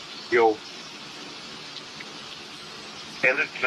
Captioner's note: raining